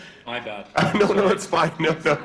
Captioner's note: laughs